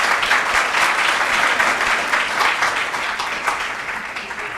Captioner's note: applause